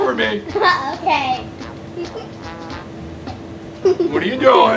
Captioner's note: giggling